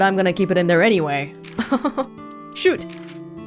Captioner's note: chuckles